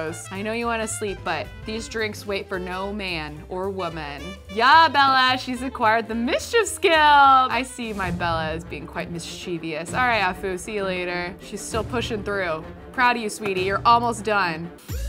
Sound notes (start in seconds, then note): none